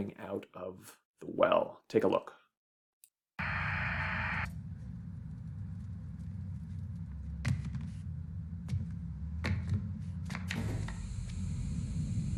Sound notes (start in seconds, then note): 7.3 footsteps; 10.5 static Hisses